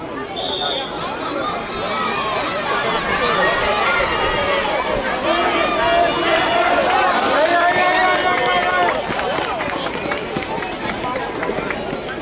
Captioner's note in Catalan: La gent anima; Xiulet